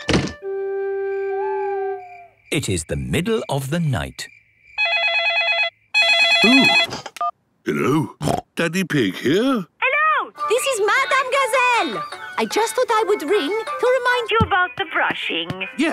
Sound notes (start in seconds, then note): 1.2 owl hooting; 5.9 phone ringing; 8.1 snorting